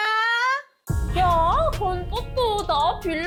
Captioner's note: world collapsing sound effect